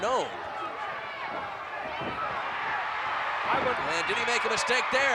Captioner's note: audience cheering